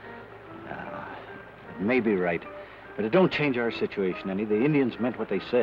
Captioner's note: sighs